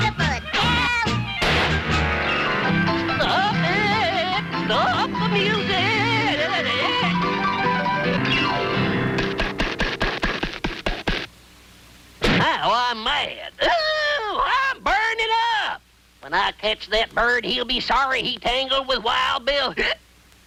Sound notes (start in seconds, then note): 3.2 player piano music; 9.2 Bill flapping